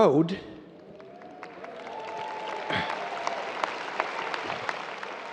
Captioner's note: audience cheering